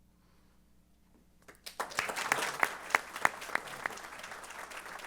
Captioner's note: applause